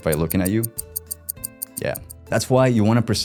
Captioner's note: clock ticking